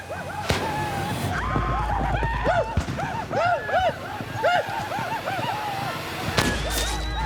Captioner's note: war cries; gunshot